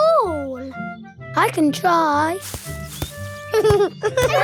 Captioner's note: leaves rustle; giggling